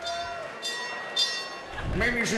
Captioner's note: bell rings